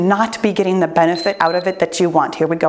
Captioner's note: timer beeps